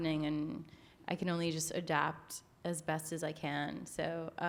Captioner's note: none